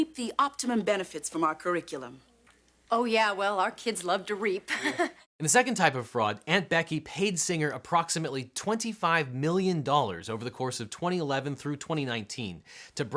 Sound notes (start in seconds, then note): 4.7 chuckles